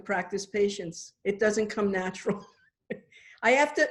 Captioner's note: laughing